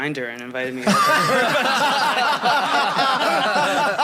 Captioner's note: all laugh